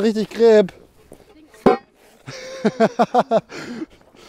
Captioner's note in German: Gelächter